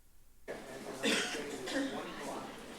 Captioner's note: indistinct chatter; coughing; indistinct chatter